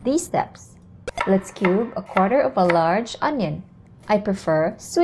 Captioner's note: knife thudding